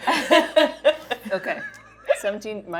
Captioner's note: laughing